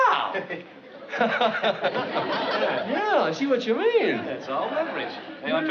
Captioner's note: laughs